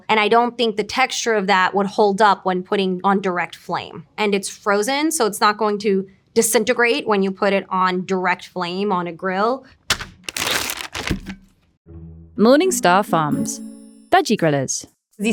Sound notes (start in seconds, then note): 9.8 packaging rustling; 9.8 patties thudding